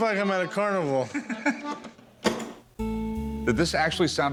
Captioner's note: chuckles